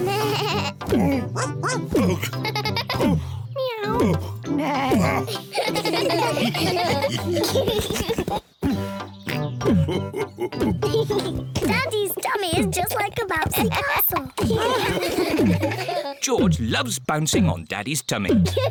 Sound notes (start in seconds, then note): 0.2 bleats; 1.3 barks; 2.6 giggles; 3.7 meows; 4.7 all chuckle; 4.8 neighs; 9.3 chuckles; 10.7 giggles